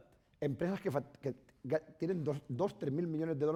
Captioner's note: speaking spanish